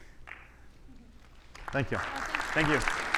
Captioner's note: audience applauding